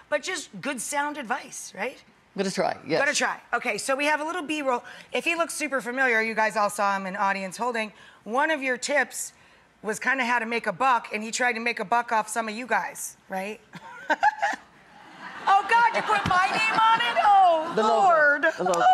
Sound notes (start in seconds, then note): 13.8 chuckles